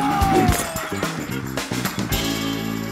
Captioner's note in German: Klirren; Dynamische Musik